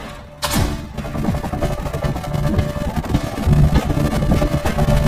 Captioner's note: wooden boards creaking